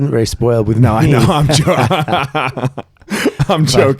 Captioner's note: laughing